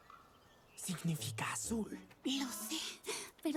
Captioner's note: whispers